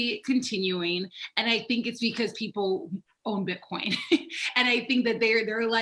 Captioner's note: laughs